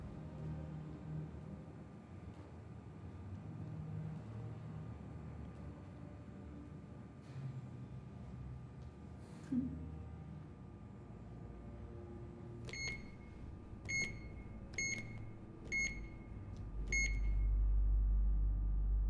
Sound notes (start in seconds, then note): 13.6 beeping